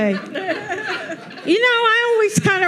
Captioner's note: audience laughing